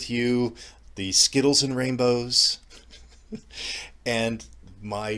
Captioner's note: laughs